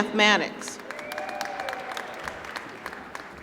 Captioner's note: applause